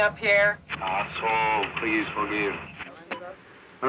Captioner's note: man On Radio